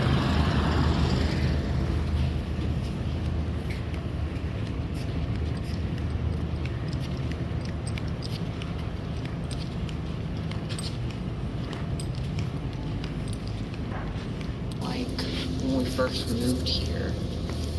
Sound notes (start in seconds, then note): 0.0 fan noise fading; 3.4 footsteps